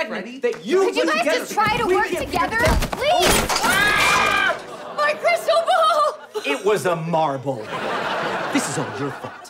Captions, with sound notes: ...we're gonna be able to shoot the segment. Can you guys just try to work together? Please! [screaming] My crystal ball! It was a marble. This is all your fault.